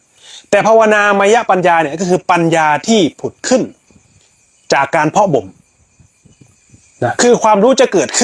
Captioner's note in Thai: เสียงสูดหายใจ